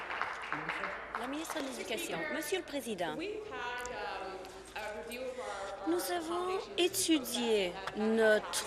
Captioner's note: applause